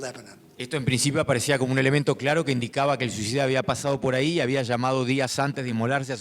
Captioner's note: speaking in foreign language